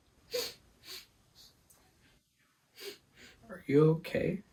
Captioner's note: sobbing